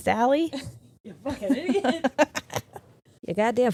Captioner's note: laughing